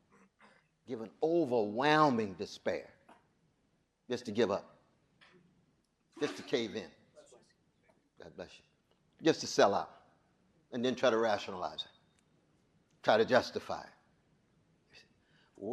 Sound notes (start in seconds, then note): 6.2 audience member sneezes